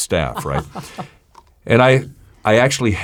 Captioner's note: laughs